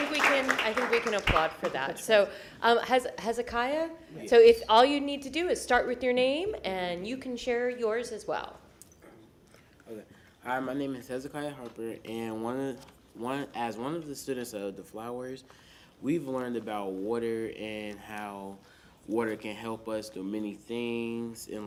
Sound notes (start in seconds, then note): 2.6 applause